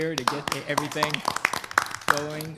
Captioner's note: board members clapping